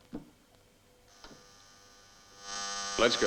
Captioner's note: buzzer buzzing